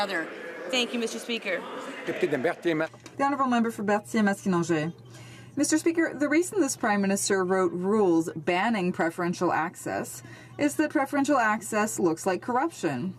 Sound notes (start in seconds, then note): 7.1 speaking French